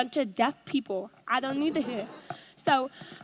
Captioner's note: audience laughs